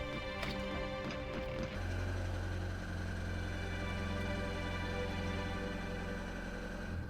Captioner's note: engine rumbling; soft music